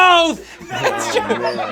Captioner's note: audience laughing